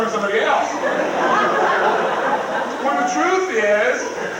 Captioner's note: crowd laughs